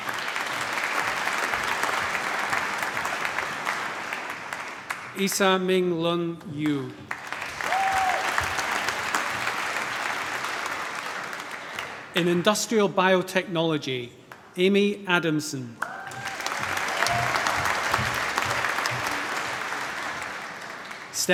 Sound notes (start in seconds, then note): 0.0 applause; 7.1 cheering, applause; 15.8 cheering, applause